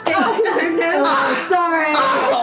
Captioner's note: Maklaw and Ping-Pong laughing